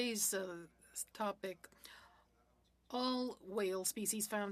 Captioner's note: speaking French